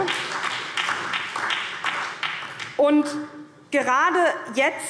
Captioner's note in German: Beifall SPD und DIE LINKE